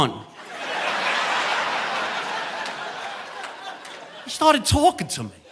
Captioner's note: audience laughing